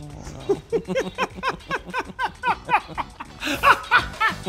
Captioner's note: laughing